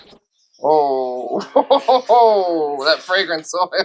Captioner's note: concerned and laughing noise